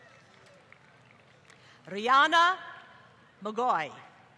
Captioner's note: applause